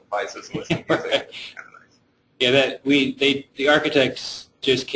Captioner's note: chuckling drowns out speaker